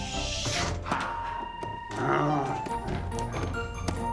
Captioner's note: exhales